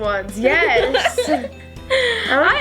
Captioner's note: laughs